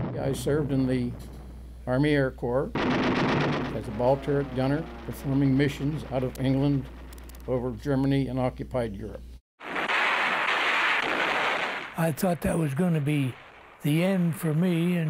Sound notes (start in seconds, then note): 9.6 guns banging